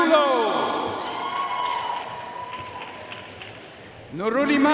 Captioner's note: audience cheering and applauding